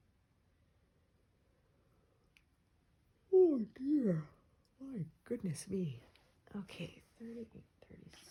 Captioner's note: yawns